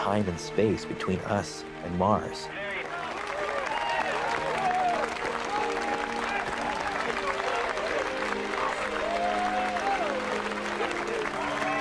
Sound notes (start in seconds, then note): 8.8 crowd cheering